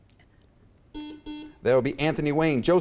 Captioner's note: buzzer beeps